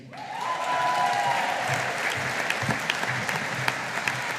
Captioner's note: audience applauding